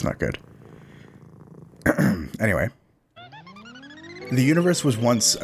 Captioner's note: ahem; Jetson's car sound as the cat floats away